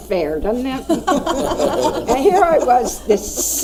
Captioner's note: laughing